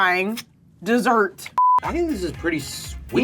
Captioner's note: electronic bleep